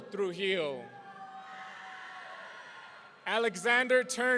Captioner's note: audience cheering